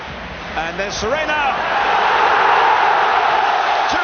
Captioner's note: crowd roaring